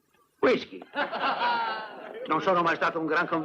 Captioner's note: laughing